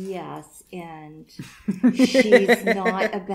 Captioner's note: more laughter